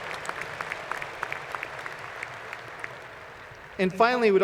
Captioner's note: applause